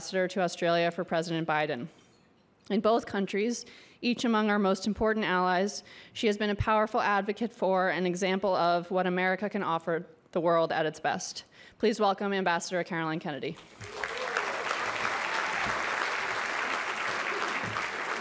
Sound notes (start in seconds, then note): 13.6 applause